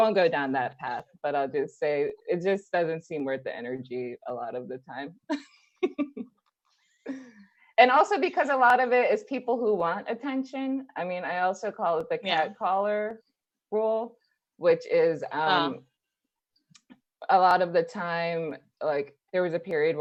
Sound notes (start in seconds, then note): 5.3 laughs